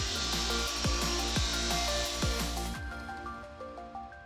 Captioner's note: machine buzzing; upbeat music continues